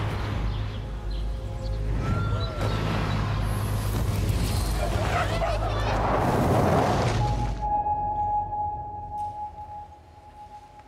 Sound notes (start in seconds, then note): 0.0 birds chirping; 6.0 tires grinding; 7.1 gentle music